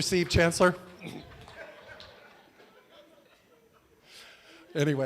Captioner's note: laughter